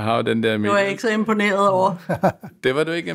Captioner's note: laughs